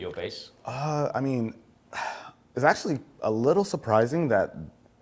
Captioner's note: sighs